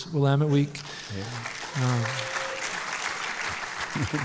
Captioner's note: applause